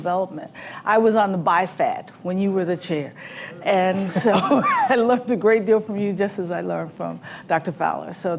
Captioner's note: laughs